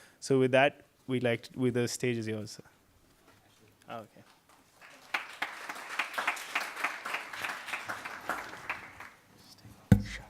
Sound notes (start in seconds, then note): 4.5 audience applauding